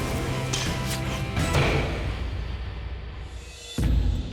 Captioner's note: arrow whistles, strikes; suspenseful music